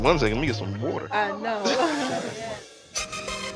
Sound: laughs

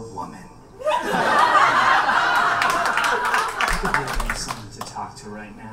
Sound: audience laughs and claps

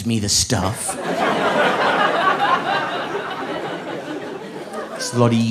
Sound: audience laughing

